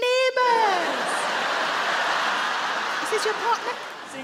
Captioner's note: audience laugh